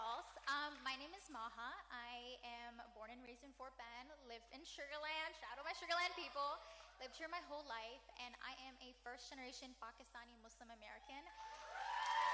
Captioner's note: cheering